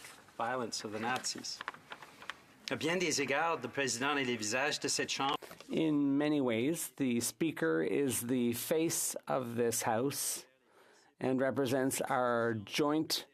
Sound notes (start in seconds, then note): 7.5 speaking French